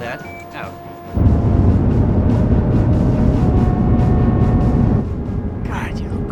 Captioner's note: inspiring music; rocket rumbling